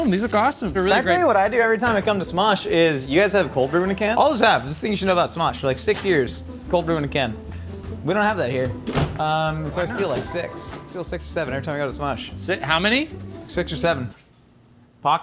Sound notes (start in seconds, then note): 8.6 refrigerator door slamming